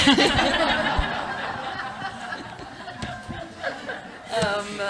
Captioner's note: laughter